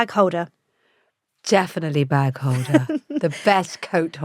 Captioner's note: laughs